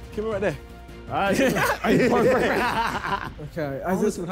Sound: laughing

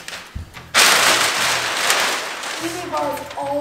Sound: paper rustling

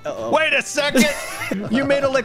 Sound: wheezes

